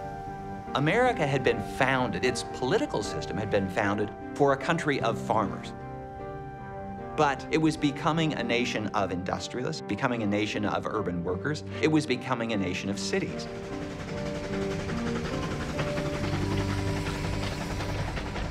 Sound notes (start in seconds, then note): 14.6 train chugging